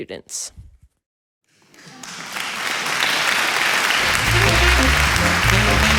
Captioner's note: croud applausing; uplifting swing music